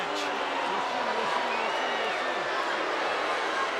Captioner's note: crowd boos